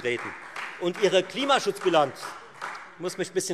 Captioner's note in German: Beifall